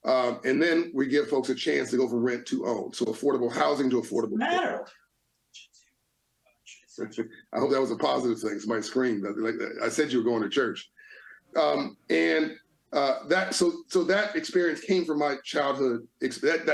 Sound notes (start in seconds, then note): 7.0 chuckling